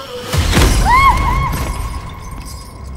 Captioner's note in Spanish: scream